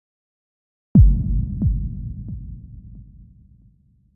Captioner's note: low thumping